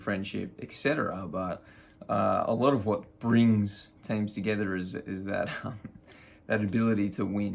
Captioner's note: chuckles